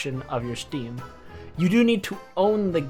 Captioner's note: breathe in